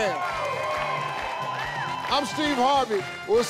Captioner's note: audience cheers